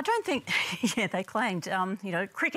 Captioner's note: laughs